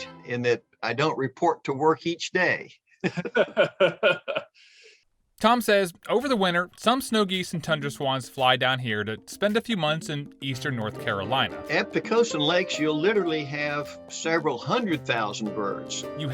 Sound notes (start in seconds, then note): 3.0 laughter